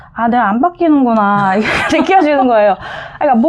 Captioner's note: laughter